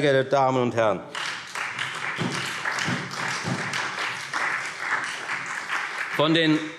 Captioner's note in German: Beifall Freie Demokraten und SPD